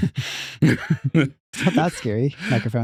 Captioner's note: both Laughing